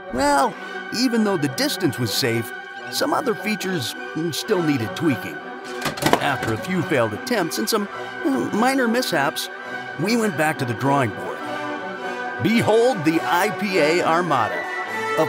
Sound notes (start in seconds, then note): 5.7 signage clunks